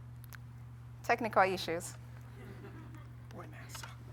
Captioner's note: crowd chuckles